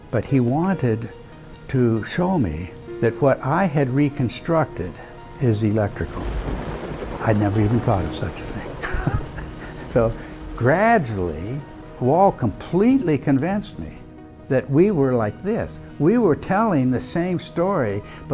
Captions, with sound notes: But he wanted to show me that what I had reconstructed is electrical. I'd never even thought of such a thing. (chuckles) So gradually, Wal completely convinced me that we were like this, we were telling the same story,